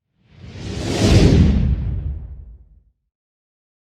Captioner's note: logo whooshing